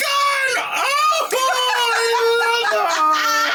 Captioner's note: laughing